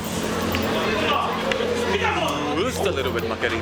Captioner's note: yelling